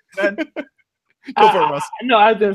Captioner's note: chuckling